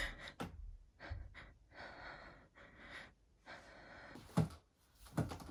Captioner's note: Amanda breathes anxiously